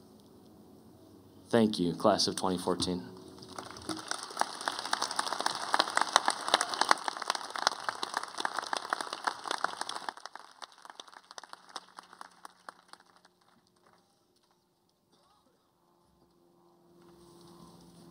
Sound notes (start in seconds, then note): 3.4 applause